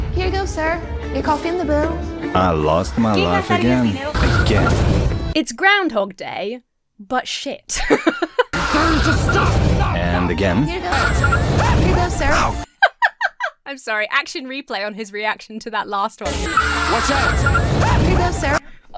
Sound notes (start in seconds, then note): 4.2 tires screeching; 7.7 Emma laughs; 10.8 main character shrieks; 11.7 Emma laughs; 16.3 main character shrieks; 16.3 tires screech